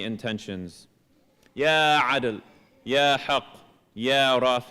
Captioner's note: speaking arabic